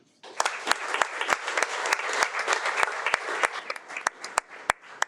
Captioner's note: audience applauding